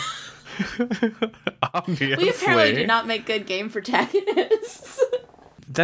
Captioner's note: laughs; laughs